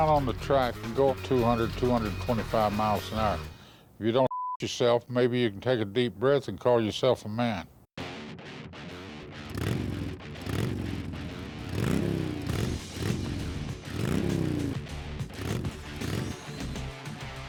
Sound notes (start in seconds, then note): 8.9 engine revs